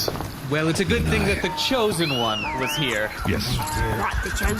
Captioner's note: Quariel whistles for their steeds